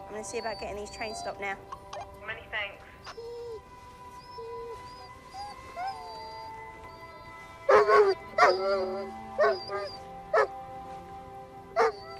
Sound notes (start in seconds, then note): 7.6 dog yowling